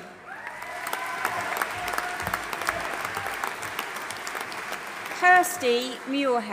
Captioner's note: audience applauding and cheering